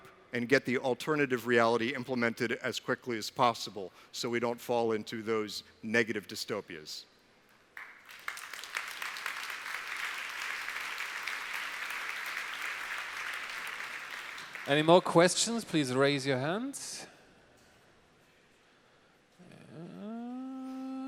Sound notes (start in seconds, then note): 7.7 applause